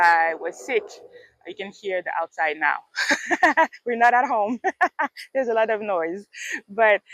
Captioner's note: laughs